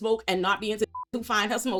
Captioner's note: beep